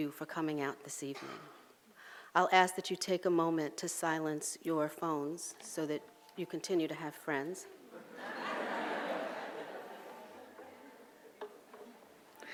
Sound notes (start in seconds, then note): 7.8 audience laughs